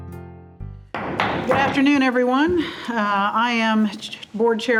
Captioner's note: gavel bangs